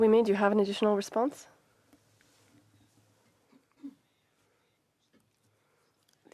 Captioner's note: speaking French